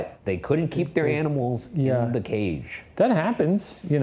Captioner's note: none